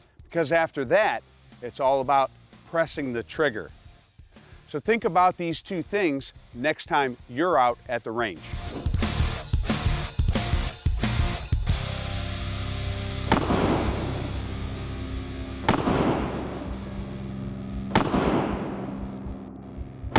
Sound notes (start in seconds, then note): 9.1 rock music; 13.2 gun popping